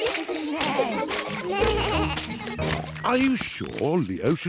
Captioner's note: bleating